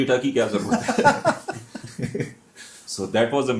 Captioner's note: हंसी